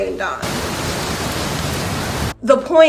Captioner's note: sound of rain